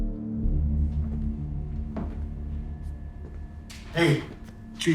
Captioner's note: footsteps clicking